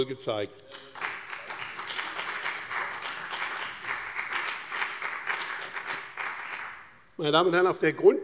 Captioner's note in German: Beifall bei dem BÜNDNIS 90/DIE GRÜNEN und der CDU